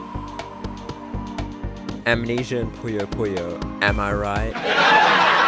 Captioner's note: laugh track